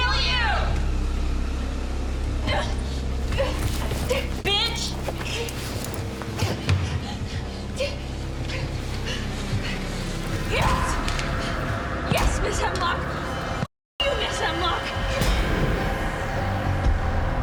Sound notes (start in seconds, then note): 3.3 Miriam grunting; 10.5 Miriam screaming; 14.0 tense music